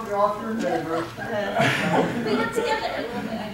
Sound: audience laughing

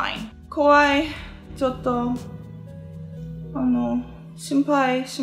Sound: speaking in foreign language

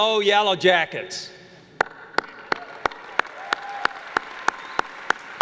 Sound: applause

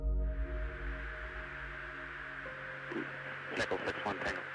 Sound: static crackling

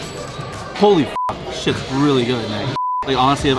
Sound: beep

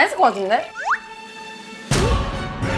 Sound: sip

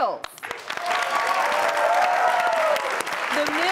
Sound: audience cheering and clapping

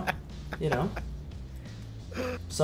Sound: laugh

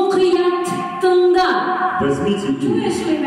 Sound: speaking Kazakh

